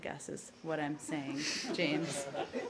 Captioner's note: laughter